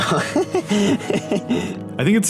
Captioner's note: laughter